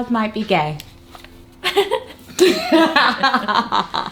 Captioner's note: laughter